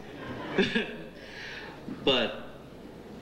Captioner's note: chuckles